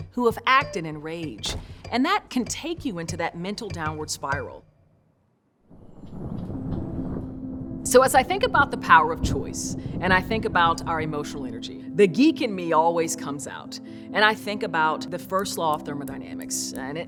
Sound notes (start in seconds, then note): 5.7 thunder